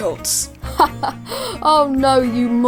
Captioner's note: Altair laughs